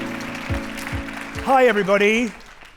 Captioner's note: audience applauding